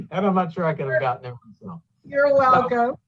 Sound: laughs

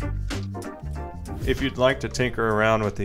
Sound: air whooshing

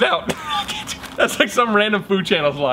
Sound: laughing

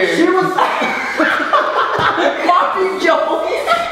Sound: laughs

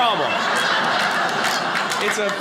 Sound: audience laughing

